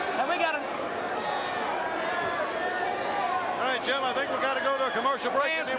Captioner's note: crowd chatter